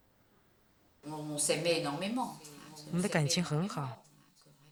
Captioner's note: non-english speech